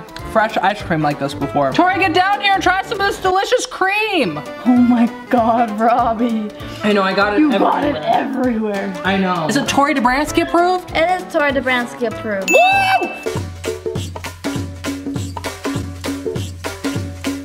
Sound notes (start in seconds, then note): 12.5 bell dings; 14.2 uptempo pop music